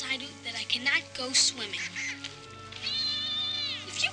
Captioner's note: Flipper chattering happily